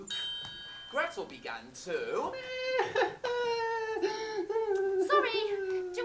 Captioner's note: ping; cries dramatically